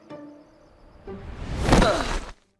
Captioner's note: grunting